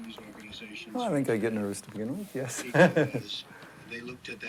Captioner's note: laughs